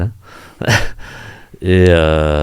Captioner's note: laughs